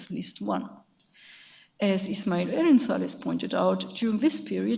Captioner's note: speaks in a foreign language